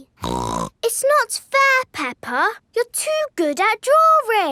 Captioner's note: snorts